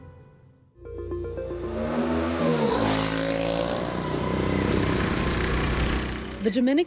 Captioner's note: upbeat music; motorbike engine roars